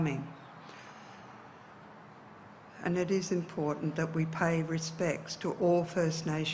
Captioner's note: speaks in indigenous dialect